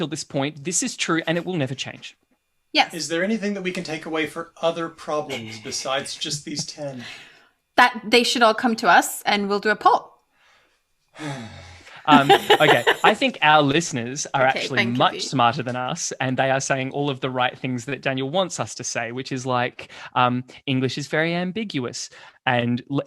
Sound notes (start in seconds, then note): 11.2 sighs; 12.0 laughs